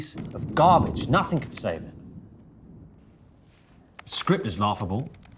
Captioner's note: thunder rumbling